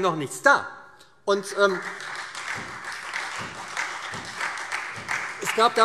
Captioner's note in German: Beifall SPD, Freie Demokraten und DIE LINKE